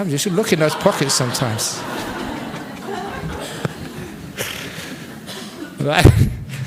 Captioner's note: laughter